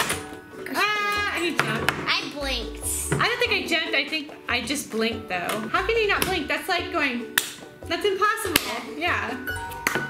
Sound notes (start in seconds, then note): 8.5 claps loudly